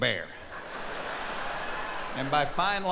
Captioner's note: laughing